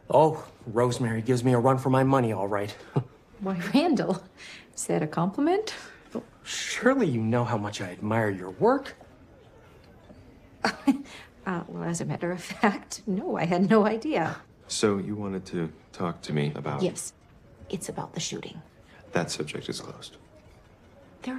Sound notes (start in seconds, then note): 10.6 chuckles nervously